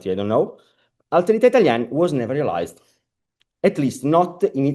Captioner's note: italian